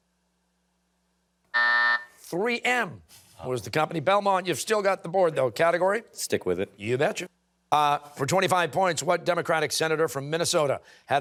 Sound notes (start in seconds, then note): 1.2 timer